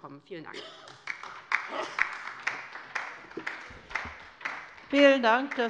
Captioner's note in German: Beifall bei der LINKEN